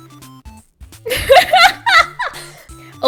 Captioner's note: laughs